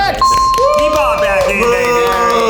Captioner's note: group cheers